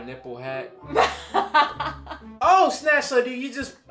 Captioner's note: laughs